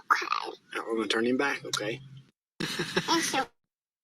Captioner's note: laughter